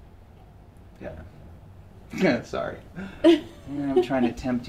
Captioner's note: laugh